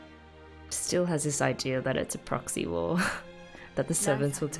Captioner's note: chuckles